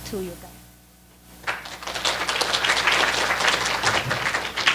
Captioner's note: applause